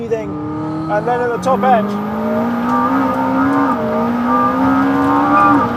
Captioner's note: engine revving